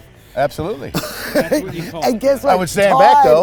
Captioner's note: laughs